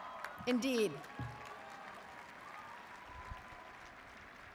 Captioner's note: audience applauds